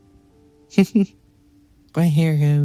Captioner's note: laughing